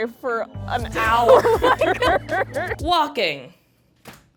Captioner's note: all laughing